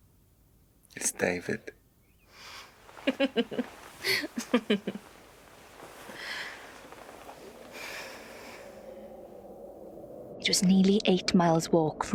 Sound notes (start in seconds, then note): 2.4 Stef giggles